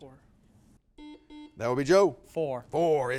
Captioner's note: buzzer beeping